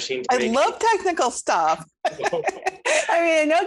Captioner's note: laughs